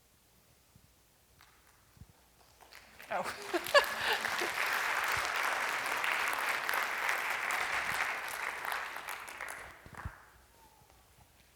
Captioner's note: applause